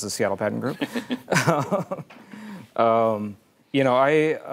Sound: chuckles

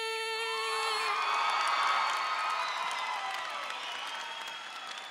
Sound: audience cheering

